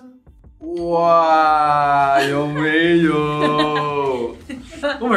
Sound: laughs

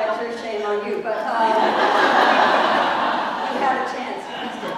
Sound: laugh

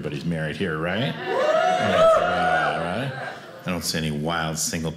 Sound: audience cheers

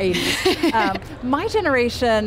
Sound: laughs

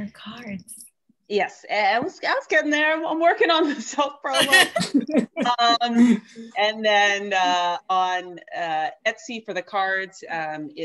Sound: laughter

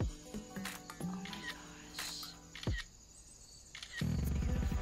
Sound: mellow hip hop music; camera clicking

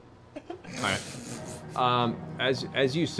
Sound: laughing

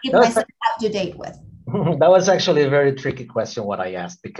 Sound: laughs

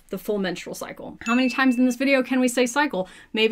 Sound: bell ringing

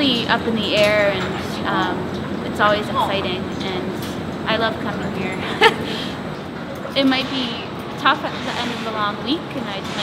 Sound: laughs

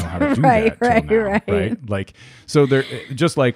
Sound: laughs

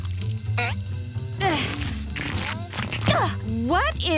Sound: grunting

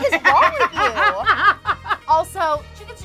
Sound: laughter

